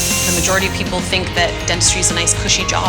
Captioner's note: dental tool buzzes